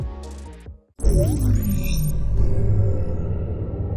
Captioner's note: dramatic intro sound